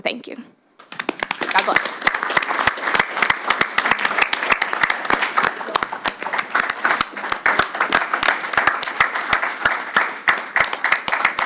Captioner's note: applause